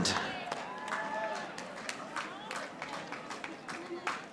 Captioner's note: audience applauding